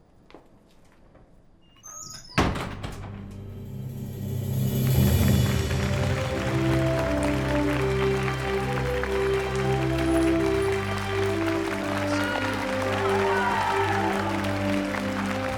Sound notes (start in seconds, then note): 1.7 door closing; 4.5 melodic cinematic music; 12.0 audience cheering